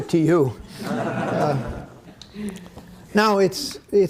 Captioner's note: audience laughing